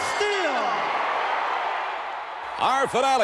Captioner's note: audience cheering